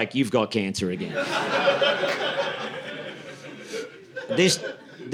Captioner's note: audience laughing